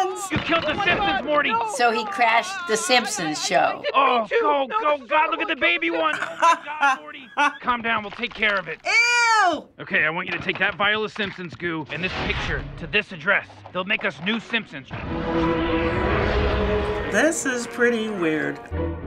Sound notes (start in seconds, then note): 5.9 laughs; 15.2 eerie futuristic music